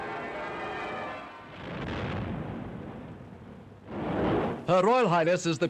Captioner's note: cannon booms